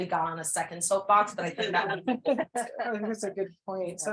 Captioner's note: people laugh